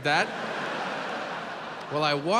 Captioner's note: audience laughs